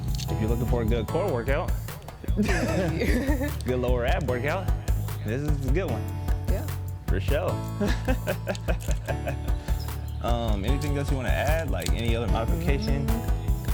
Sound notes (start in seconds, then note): 2.3 both laugh; 7.8 laughs